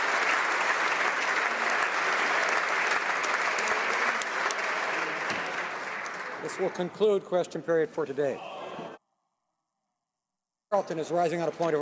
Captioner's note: applause